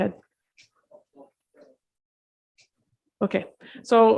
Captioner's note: faint chattering